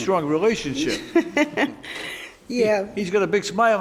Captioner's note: laughing